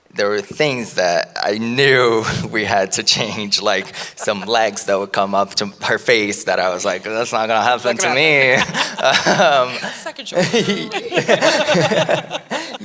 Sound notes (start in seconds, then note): 8.6 laughing; 9.6 chattering; 11.2 laughing